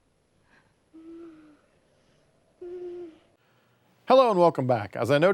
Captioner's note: Kathy wheezing